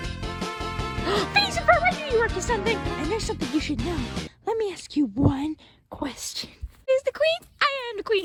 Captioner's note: gasp